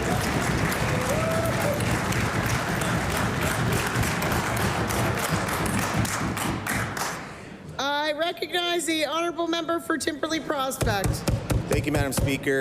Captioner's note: applause